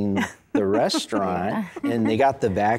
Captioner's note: giggling